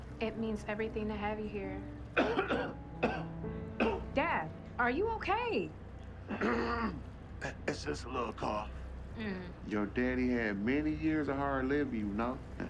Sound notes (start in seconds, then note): 2.1 coughs